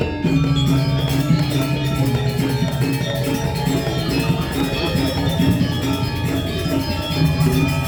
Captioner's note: applause